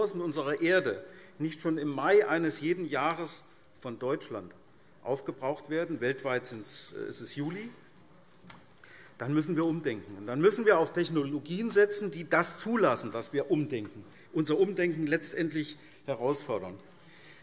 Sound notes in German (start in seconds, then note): none